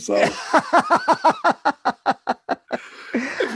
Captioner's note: laughs